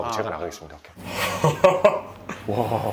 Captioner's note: starts to laugh